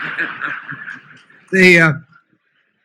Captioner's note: laughter